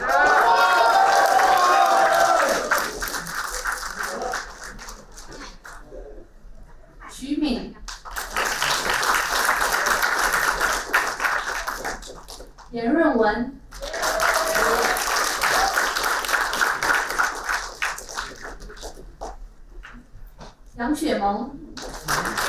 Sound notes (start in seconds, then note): 0.0 applauding; 7.8 applauding; 21.7 applauding